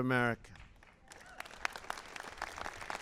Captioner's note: applause